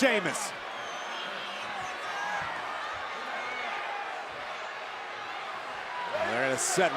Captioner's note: applause